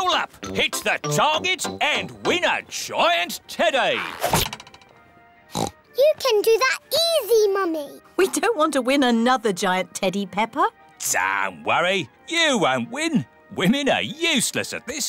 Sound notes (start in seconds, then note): 5.5 oinks